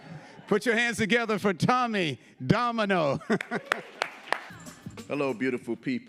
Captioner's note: chuckles